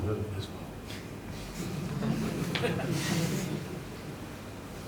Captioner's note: audience members chuckle